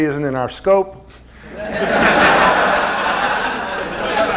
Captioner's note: laughter